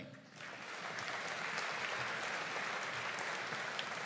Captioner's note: audience applauding